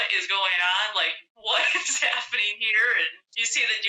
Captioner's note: laughter